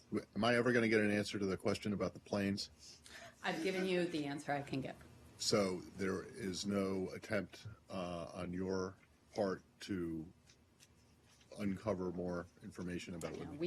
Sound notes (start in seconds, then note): 3.6 laughter